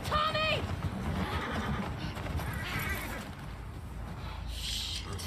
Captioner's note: horse neighs